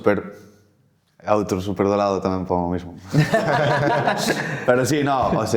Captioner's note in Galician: risas